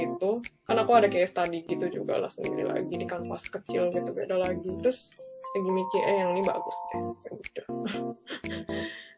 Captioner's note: laughs